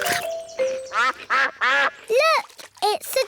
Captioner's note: quacking